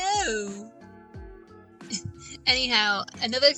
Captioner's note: laughs